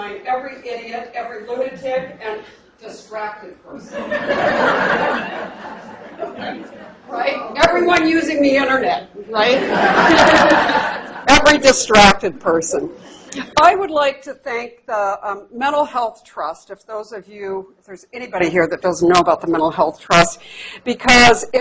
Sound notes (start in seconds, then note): 3.9 laughter; 9.5 laughter